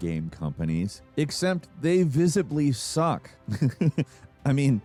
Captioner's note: laughs